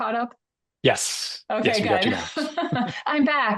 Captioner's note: laughs